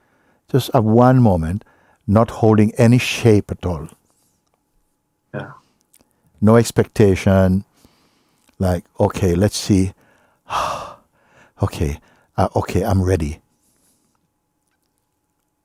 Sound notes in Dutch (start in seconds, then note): 10.0 ademt uit